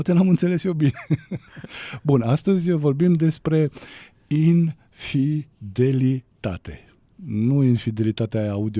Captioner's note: laughter